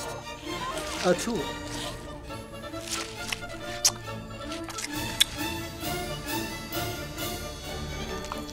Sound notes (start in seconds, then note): 3.1 squishing; 4.5 lively instrumental music